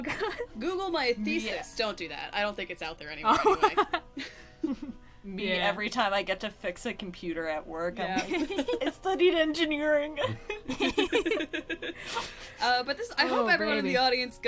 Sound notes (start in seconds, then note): 0.0 laughs; 3.3 laughs; 10.2 laughter